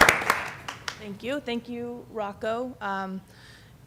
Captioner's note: applause